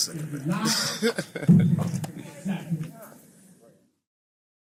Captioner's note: chuckling